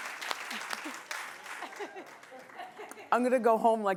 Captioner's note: laughing